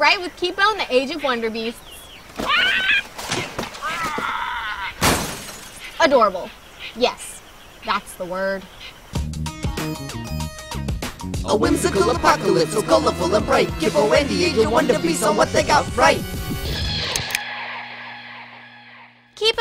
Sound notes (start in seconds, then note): 2.4 squawking; 5.0 crash; 9.5 quirky music